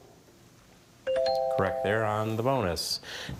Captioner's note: bell chimes